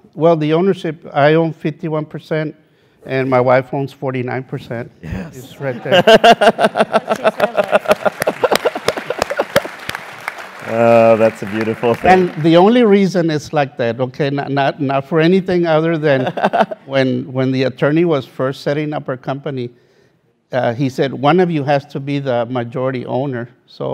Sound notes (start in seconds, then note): 5.1 laugh; 7.0 applause